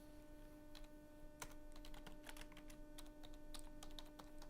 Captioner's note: typing on keyboard